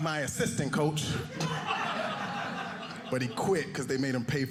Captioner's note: audience laughing